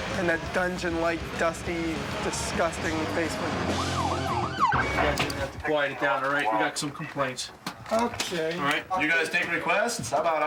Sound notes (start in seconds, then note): 3.2 police sirens ringing; 4.9 police officers muttering